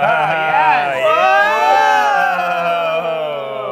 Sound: laughter; cheering

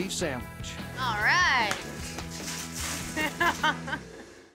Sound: stones scattering

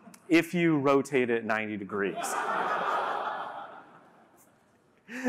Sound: laughter

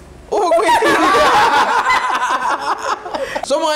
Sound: laughter

